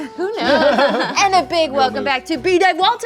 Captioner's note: laughing